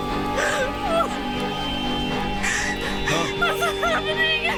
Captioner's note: sobbing